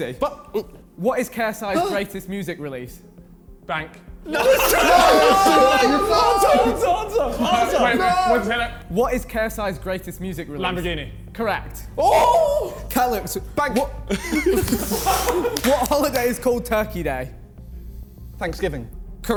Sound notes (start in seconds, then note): 4.2 men cheering; 4.2 men exclaiming; 12.0 men cheering; 14.0 men laughing